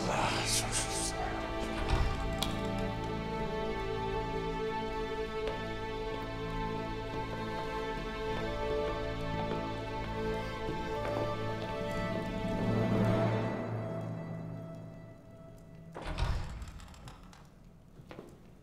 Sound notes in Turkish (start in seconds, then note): 1.7 Kapı açılma sesi